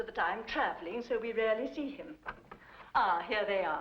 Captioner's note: door opens